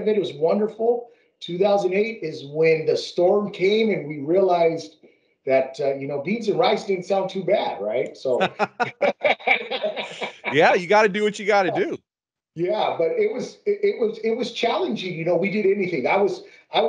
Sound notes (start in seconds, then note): 8.3 laughing